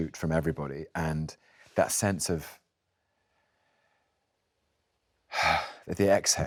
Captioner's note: exhales